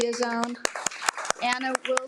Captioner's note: attendees applaud